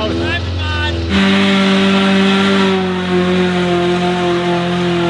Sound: engine roaring

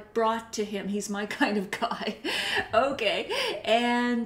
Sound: laughs

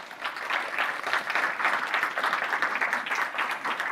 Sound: audience applauding

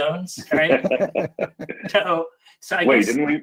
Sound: all chuckle

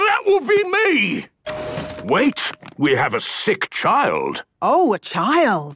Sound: door dings open

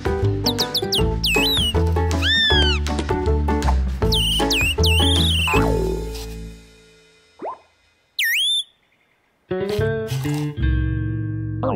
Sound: chirping

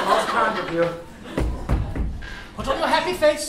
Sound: knocks on door

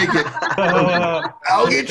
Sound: multiple speakers laugh

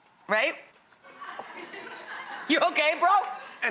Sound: laughing

